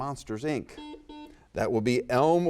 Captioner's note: buzzer dings